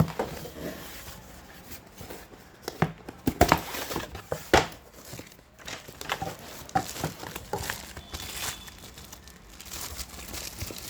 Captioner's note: ASMR: Foil wrap rustle